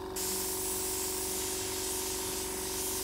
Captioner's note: airbrush hissing